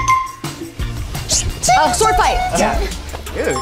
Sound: app chimes; actors mimicking clinking

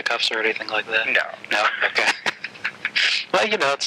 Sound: laughing

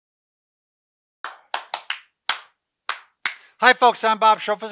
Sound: rhythmic Clapping

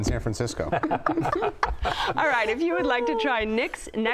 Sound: all laugh

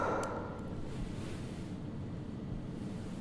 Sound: breathing sound stops

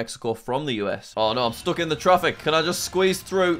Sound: traffic background noise

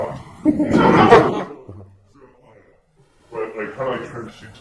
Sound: laughing

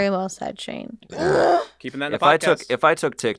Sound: burps

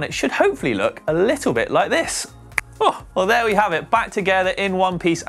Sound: snaps fingers

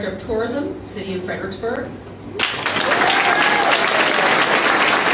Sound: applause

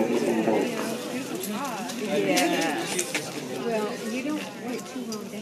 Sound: people talking, airport noises

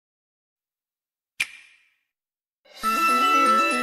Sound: digitally-generated clap; grand music plays

